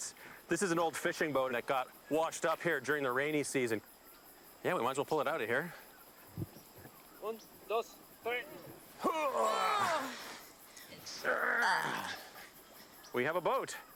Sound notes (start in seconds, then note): 8.7 grunting